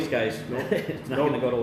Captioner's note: chuckling